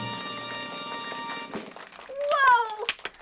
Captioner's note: musical florish; applause